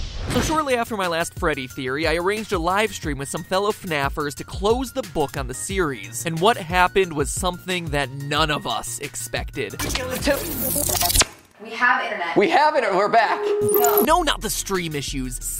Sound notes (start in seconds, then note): 10.2 weird distorted audio